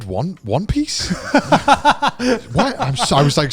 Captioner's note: laughing